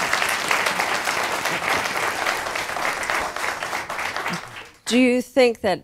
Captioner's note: applause